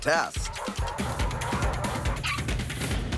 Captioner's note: dogs barking